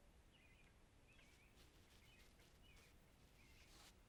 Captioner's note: birds chirping